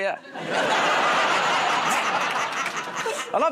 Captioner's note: laughter